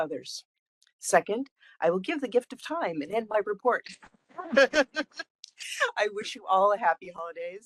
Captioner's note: laughing